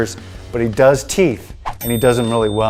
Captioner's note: dinging